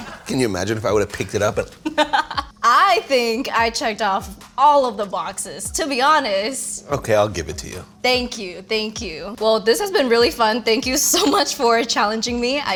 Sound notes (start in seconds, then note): 1.3 laughing